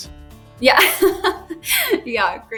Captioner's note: laughs